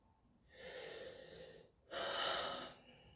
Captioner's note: breathes in and out